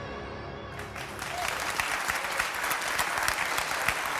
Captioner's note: applause